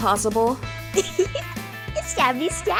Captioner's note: cute 'lil chuckle from a cute and totally inoocent unicorn